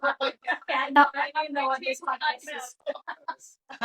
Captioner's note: laughing